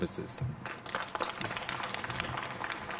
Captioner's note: applause